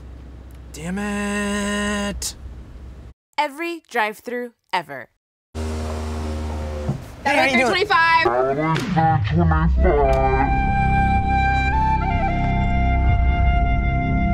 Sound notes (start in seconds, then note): 9.0 echoing; 9.2 dramatic music